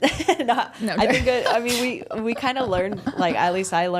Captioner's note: laughs